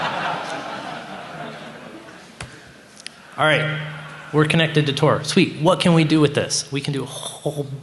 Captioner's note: laughter